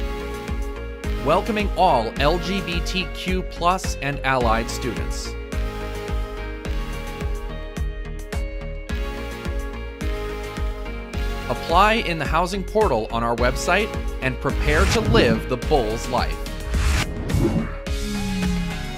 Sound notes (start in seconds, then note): 14.6 swoosh